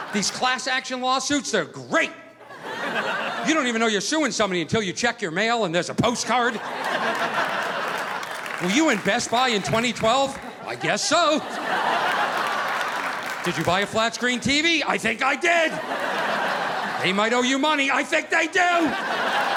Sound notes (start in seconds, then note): 6.8 audience laughing